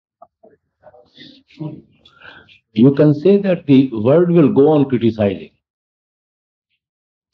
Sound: laughter

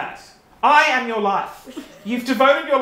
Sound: artists chuckling

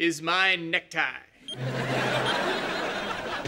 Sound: beeping

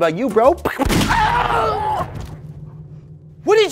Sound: gunshot; bro shrieks

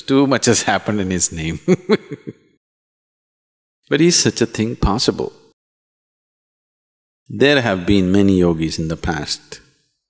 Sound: laughs

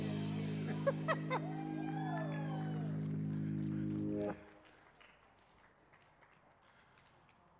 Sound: crowd cheering; laughing

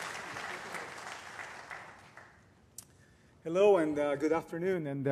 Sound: applause

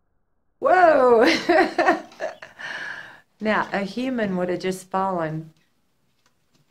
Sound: laughter

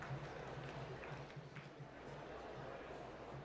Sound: applause

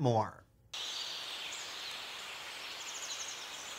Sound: birds chirping

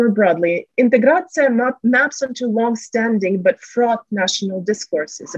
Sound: russian

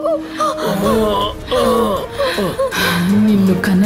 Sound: groans

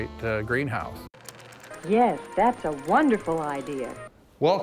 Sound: tv voice

